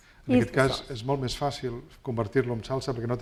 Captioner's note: speaking spanish